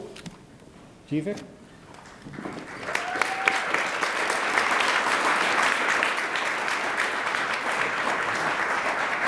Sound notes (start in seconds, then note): 2.0 attendees applaud